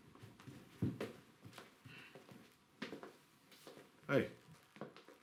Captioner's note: footsteps approaching